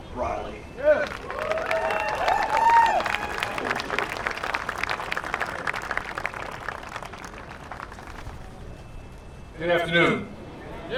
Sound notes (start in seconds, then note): 1.0 cheer; 3.8 applause